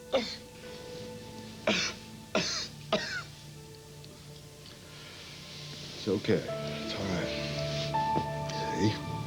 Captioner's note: coughing